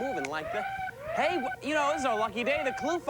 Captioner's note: siren wailing